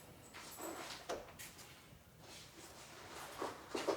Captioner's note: cloth rustles